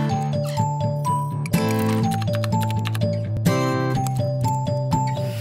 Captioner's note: upbeat electronic music; keys tapping